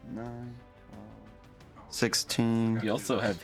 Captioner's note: laughing